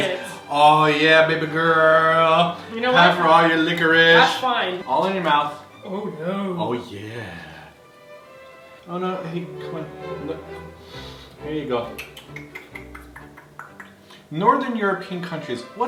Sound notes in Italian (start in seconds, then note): 7.4 con voce sexy; 11.8 suono come se desse da mangiare a un bambino